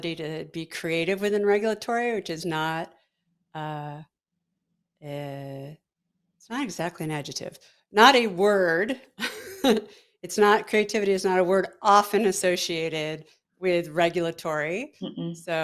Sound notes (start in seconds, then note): 9.2 both laughing